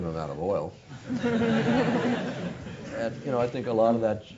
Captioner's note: laugh